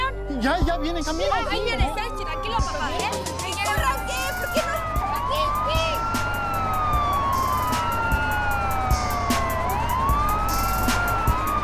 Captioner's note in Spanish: Sirena de ambulancia